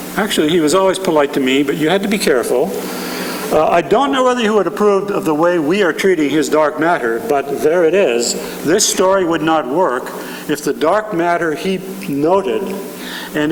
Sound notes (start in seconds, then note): none